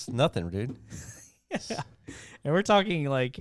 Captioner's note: laughing